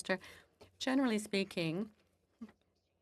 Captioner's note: speaking FRENCH